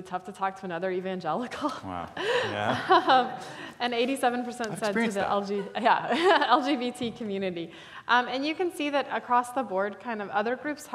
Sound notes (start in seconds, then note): 2.2 laughing